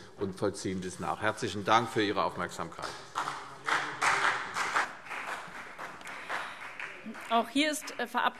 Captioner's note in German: Beifall CDU und BÜNDNIS 90/DIE GRÜNEN